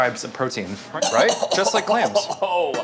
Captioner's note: coughs